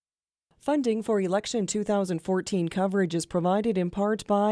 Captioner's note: voiceover